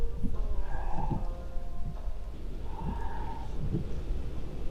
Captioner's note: Len sighing